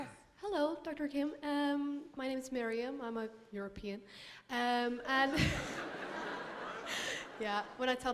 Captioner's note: laughter